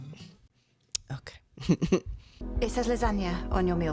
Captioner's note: laugh